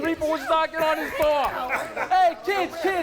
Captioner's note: people laughing